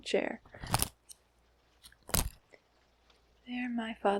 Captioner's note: fan opening and closing